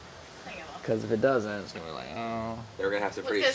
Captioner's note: groaning